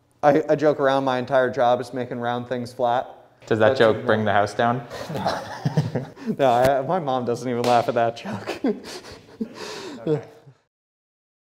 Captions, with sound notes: - I joke around my entire job, is making round things flat. - Does that joke bring the house down? (laughs) - No, my mom doesn't even laugh at that joke.